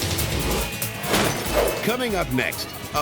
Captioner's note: graphics whooshing; upbeat pulsating music; glass shattering; graphics thump